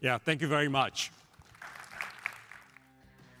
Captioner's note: applause